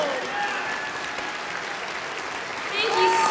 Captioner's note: cheers and applause